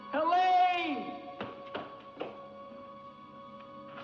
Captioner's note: racing footsteps